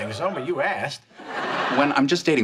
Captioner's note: audience laughs